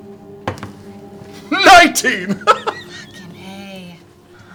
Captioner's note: laughs